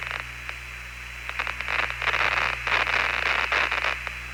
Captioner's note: mild static burst